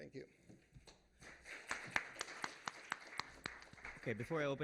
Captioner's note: applause